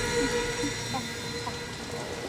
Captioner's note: eerie music; Faraday whimpering